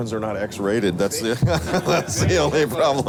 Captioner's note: laughter